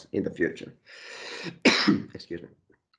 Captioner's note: coughs